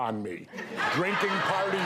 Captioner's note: audience laughing